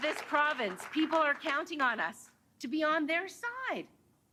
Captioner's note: applause